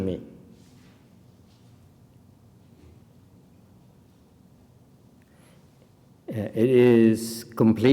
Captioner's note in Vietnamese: silence